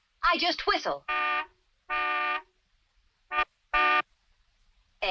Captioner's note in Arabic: صوت بوق السيارة